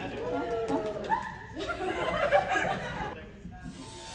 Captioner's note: excited mic check noises, laughter